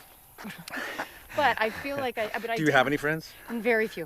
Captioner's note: laughing